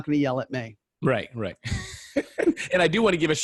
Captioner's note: laughing